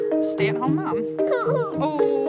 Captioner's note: cries